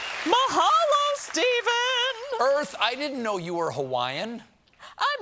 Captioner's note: applause